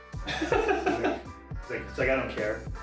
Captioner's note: laughing